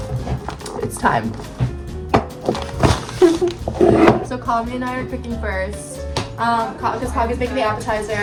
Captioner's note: bottle aggresively hits countertop